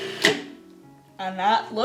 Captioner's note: food processor noises